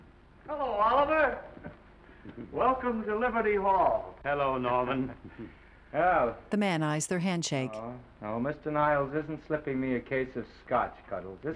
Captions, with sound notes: Hello, Oliver! Welcome to Liberty Hall. Hello, Norman. -Well... -[Oliver sighing] No, no, Mr. Niles isn't slipping me a case of Scotch, Cuddles.